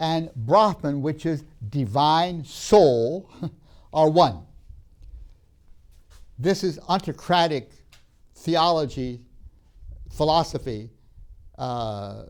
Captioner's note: laughs